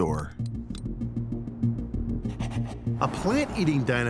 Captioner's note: pick scraping